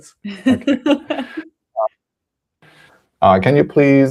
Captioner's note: laughs